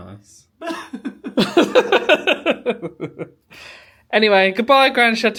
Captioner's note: laughing; fake crying